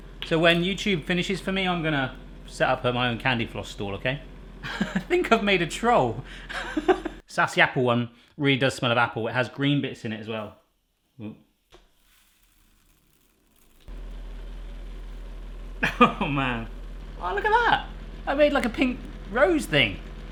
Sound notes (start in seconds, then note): 4.6 laughing